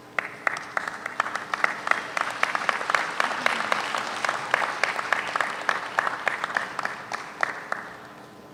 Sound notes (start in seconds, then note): 0.1 audience applauds